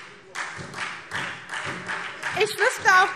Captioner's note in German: Beifall SPD